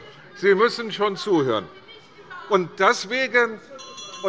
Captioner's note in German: Anhaltende Unruhe - Glockenzeichen des Präsidenten